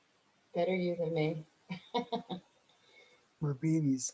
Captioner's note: chuckles